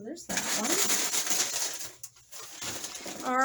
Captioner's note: loud paper rustling